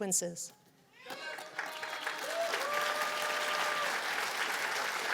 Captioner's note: cheers and applause